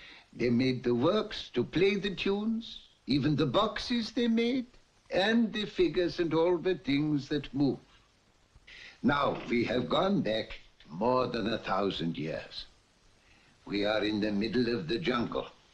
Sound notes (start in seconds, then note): none